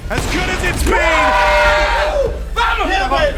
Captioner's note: team cheering